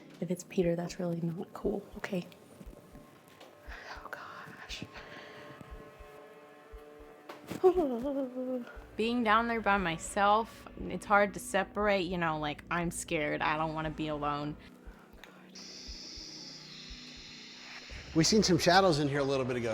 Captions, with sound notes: If it's Peter, that's really not cool. Okay. Oh, gosh. Oh... Being down there by myself, it's hard to separate, you know, like I'm scared. I don't want to be alone. [spirit box scanning] We seen some shadows in here a little bit ago.